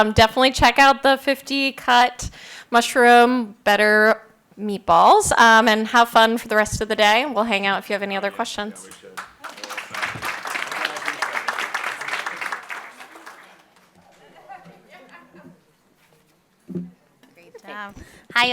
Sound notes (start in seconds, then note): 8.8 everyone applauding; 13.9 laughs